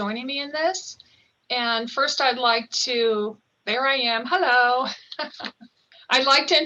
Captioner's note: laughing